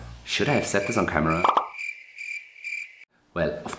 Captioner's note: crickets stridulating